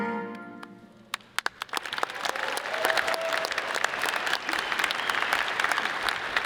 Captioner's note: audience cheers and applauds